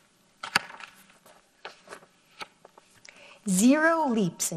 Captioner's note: paper rustles